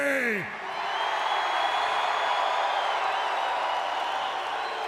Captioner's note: audience cheering